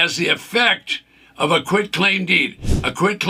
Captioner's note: screen whooshes